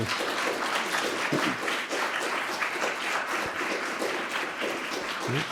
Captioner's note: audience applauding